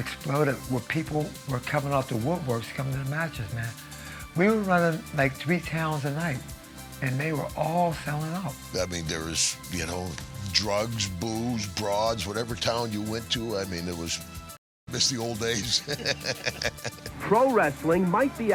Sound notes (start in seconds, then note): 15.2 laughing